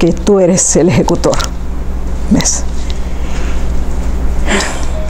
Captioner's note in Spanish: suspira